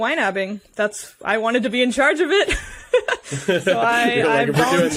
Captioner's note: laughing